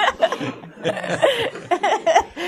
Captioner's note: laughter